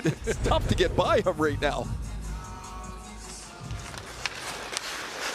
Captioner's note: chuckles